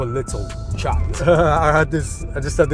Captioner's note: laughing